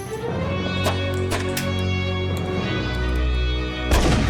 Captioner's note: gunshots